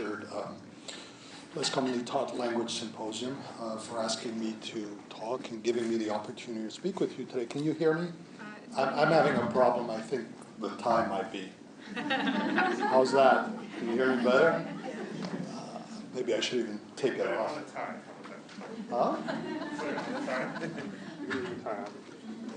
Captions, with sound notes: Shared Less Commonly Taught Language Symposium for asking me to talk and giving me the opportunity to speak with you today. Can you hear me? I'm having a problem I think the tie might be... How's that? [Laughter] Can you hear me better?